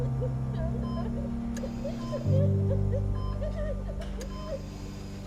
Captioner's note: cries